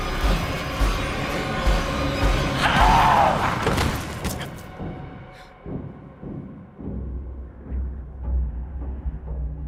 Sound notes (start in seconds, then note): 2.6 demon screams